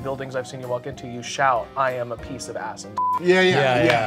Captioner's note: beep